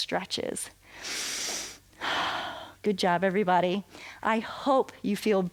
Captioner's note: inhales and exhales